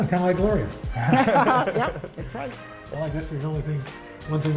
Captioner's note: laughter